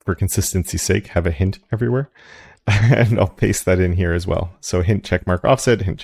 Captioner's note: laugh